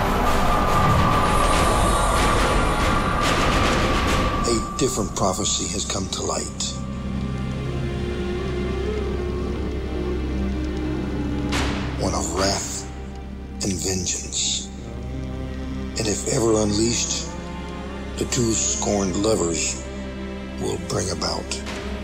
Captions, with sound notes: (mystical tinkling) A different prophecy has come to light. (fire crackling) One of wrath and vengeance, and if ever unleashed, the two scorned lovers will bring about the apocalypse.